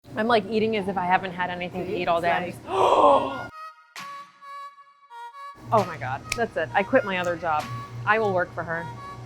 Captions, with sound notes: - I'm like eating as if I hadn't had anything to eat all day. (gasps) Oh my God, that's it, I quit my other job, I will work for her.